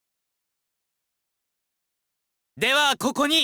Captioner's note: silence